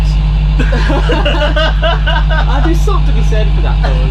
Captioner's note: laughter